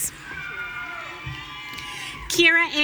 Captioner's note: audience cheering